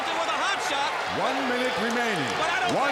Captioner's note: crowd cheering